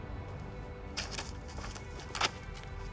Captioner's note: papers rustling